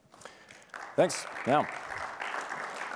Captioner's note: applause